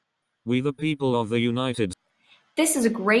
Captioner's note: computerized voice